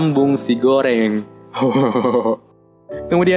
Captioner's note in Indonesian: ketawa pisikopet